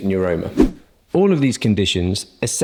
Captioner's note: swoosh